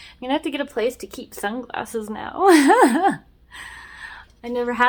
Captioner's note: laughs